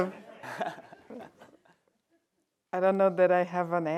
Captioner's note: laughter